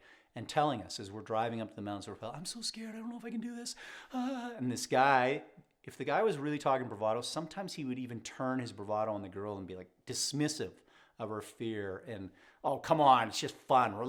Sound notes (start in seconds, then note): 4.1 mimics crying